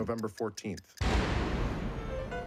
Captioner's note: boom